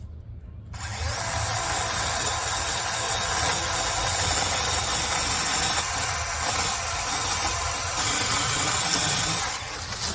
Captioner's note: chainsaw revs